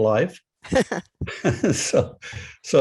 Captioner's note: laughter